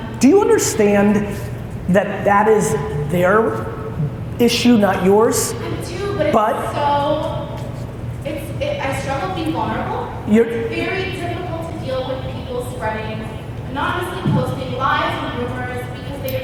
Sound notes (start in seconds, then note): none